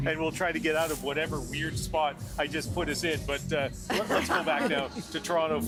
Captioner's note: laughter